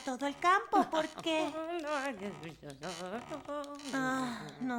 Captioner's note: chuckles; muttering